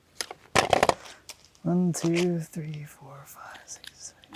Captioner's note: tape clatters